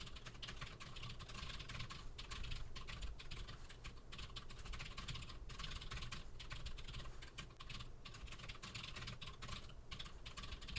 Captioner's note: typing sounds